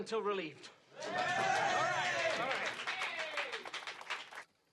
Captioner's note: applause and cheers